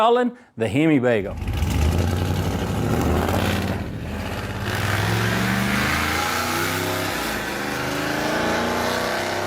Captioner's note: engine Noises